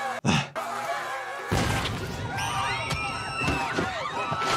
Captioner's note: Mahalik shouting; Jordan scoffing; Mahalik continues shouting; girl screaming; Brenda exploding; mourners exclaiming